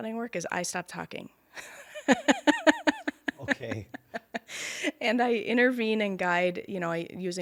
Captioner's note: laughter